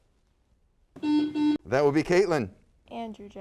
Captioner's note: buzzer sounds